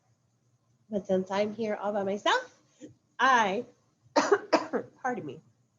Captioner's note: coughs